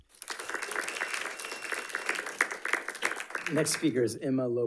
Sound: audience applauding

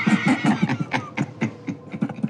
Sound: seamen laughing

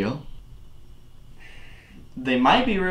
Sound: sigh

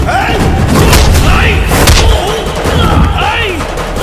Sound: commotion

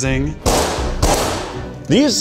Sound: tray clatters

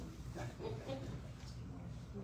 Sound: chuckles

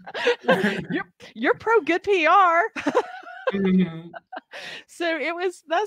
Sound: laughing

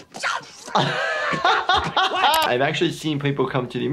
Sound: laughing

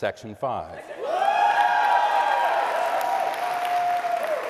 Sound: cheering

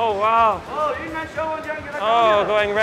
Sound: worker speaks Mandarin

